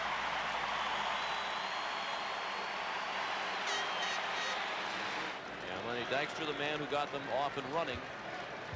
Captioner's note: applause